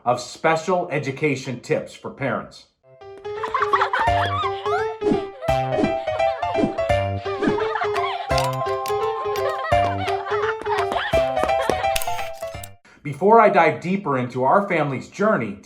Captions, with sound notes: of Special Education Tips for Parents. (kids laughs) (upbeat whimsical music) Before I dive deeper into our family's journey